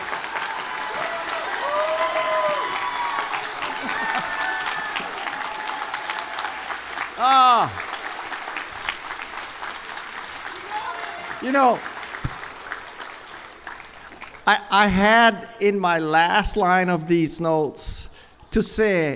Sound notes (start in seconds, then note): 1.6 cheers and applause